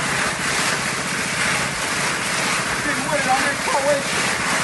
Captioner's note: water blasting